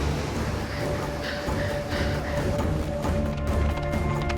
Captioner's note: breathes heavily